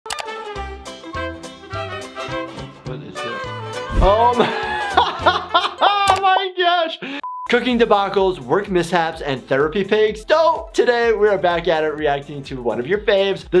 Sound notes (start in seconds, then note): 0.1 upbeat music; 4.1 laughs